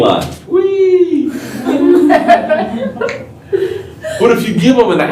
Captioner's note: laughter